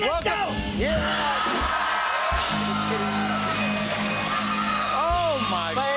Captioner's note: cheers and applause